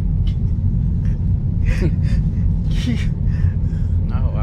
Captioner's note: both Laugh